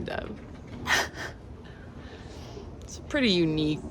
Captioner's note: laughs